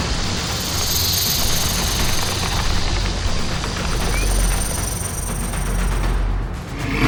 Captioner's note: snake rattles; snake hisses